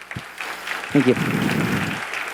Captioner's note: clapping